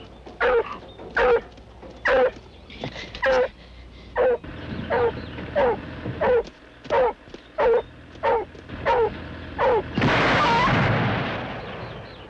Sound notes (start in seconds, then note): 10.0 gunshot